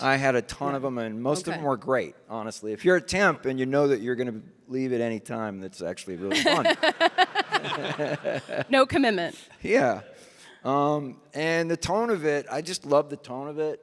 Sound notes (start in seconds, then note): 6.2 audience laughing; 6.3 laughs